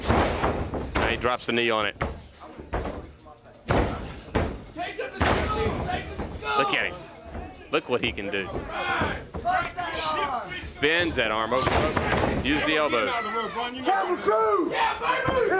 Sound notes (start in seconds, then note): 1.1 crowd chatter; 4.1 crowd chatter; 11.6 crowd chatter